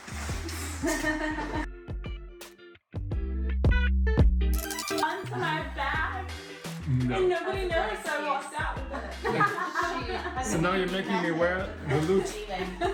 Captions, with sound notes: (laughter) onto my bag and nobody noticed I walked out with it. (laughing) - So now you're making me wear the loot.